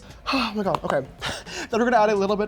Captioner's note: sigh